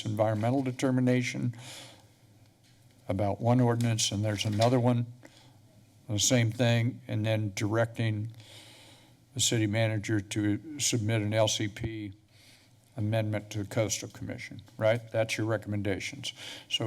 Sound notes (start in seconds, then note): none